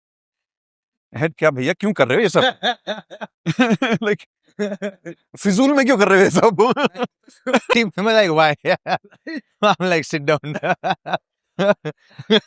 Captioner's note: laughter